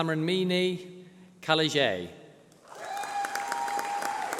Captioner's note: applause